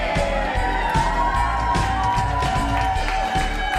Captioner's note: cheering